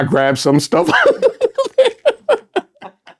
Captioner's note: laughing